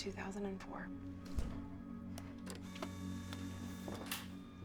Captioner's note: printer whirs